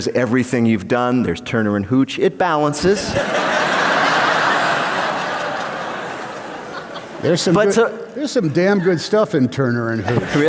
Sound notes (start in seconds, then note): 2.9 laughter